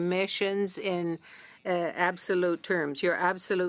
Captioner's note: speaking in French